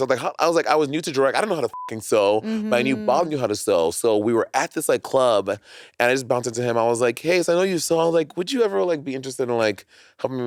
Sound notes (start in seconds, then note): 1.7 beep